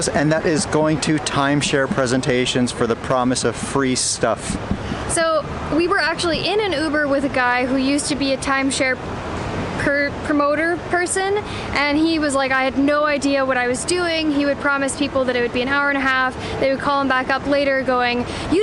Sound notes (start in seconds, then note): none